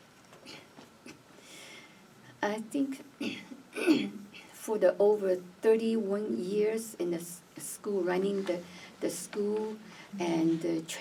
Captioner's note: clears throat